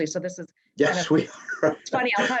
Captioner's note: chuckles